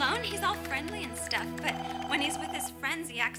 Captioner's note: phone ringing